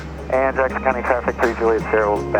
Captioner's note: Traffic